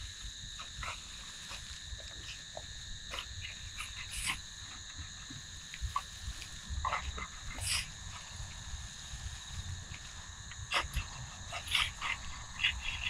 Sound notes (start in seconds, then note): 2.7 insects chirping; 2.7 tools scraping